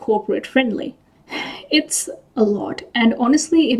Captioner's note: sighs